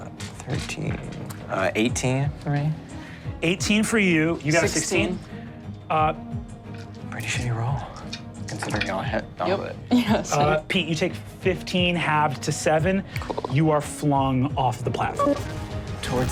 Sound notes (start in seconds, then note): 10.3 chuckles